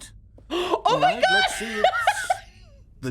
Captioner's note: laughs; gasps